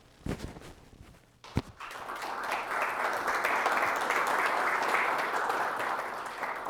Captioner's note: audience applause